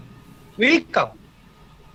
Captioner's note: German